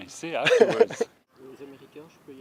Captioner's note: laughter